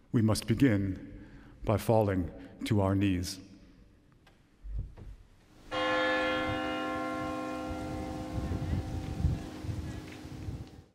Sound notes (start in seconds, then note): 5.7 bell ringing